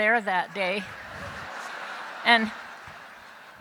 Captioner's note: laughter